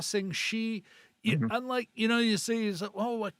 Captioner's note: laughing